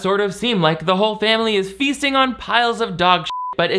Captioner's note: beep